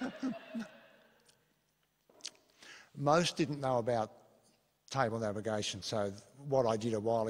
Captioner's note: laughter